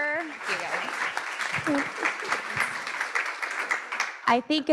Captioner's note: audience clapping